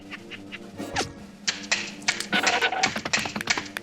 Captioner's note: claws clacking